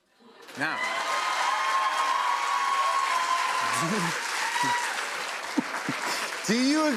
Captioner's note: cheers and applause